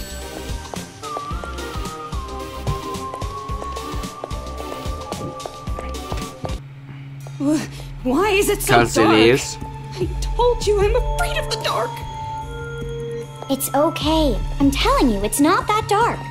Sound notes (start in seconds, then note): none